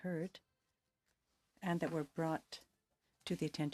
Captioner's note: speaking French